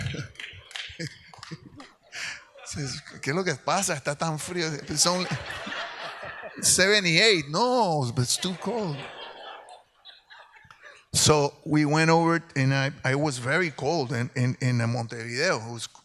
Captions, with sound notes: (speaks in Spanish) (audience laughs) 78, no that's too cold! So we went over, and I was very cold in Montevideo.